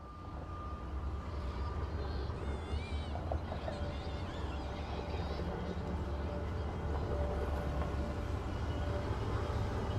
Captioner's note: indistinct chatter